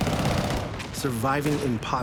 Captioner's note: gunshots